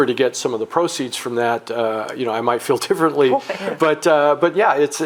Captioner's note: laughing